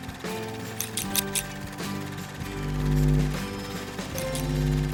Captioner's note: scissors clicking